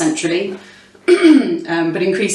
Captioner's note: clears throat